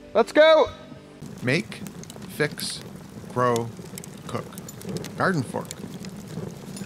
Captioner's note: voiceover